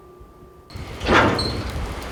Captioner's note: metal clangs loudly